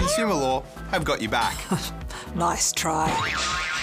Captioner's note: boing!